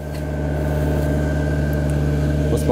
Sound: roaring

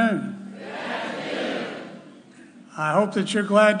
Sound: crowd

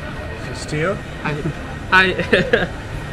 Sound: laughing

